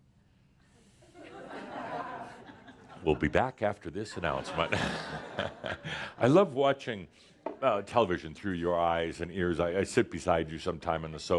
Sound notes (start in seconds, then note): 4.6 chuckles